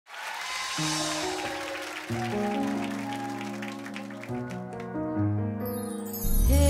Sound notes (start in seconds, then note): 0.0 applause